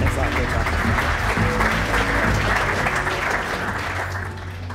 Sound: applause

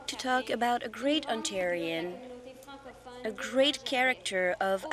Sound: speaking French

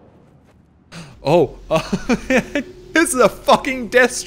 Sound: laughs

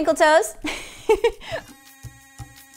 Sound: laughing; tribal music

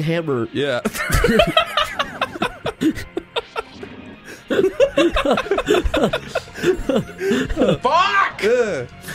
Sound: laughter

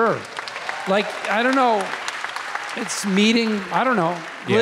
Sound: audience applauding

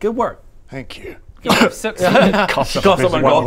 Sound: cough

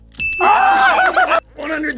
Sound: group laughs

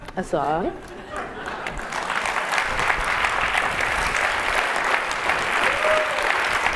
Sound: laugh; applause

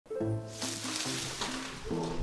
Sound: leaves rustling

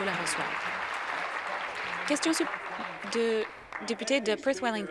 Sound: applause

